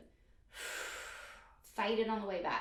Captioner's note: exhales breath